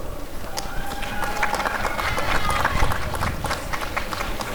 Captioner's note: applause and cheering